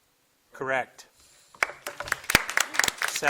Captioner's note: audience applauding